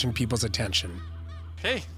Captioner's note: seagull squawking